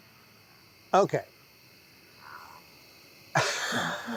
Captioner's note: laughs